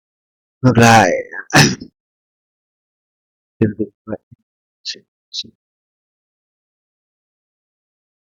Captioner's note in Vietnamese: hắng giọng